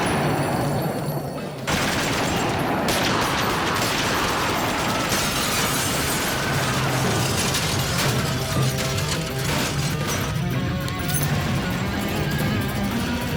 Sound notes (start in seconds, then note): 1.8 guns fire; 4.0 glass smashes; 5.3 guns fire